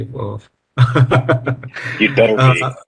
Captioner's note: laughs